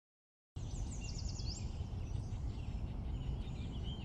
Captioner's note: birds chirping